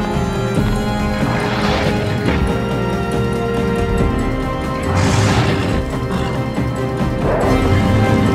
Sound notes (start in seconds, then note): 1.4 creature growling; 4.9 creature roaring